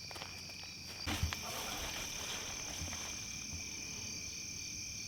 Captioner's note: crickets chirping